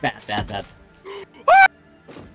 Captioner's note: cut off scream